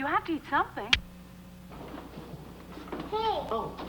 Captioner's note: computer clicks